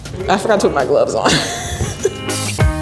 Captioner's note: upbeat music; laughing; upbeat music